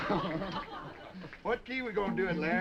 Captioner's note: Boatwhistle laughing; all laughing